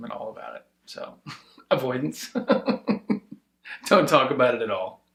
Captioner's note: laughing